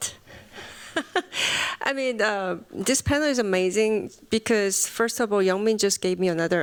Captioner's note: chuckles